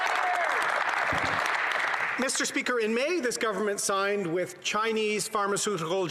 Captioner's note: some Applause